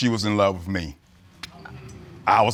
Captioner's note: audience murmuring